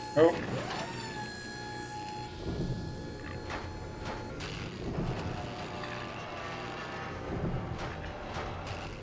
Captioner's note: none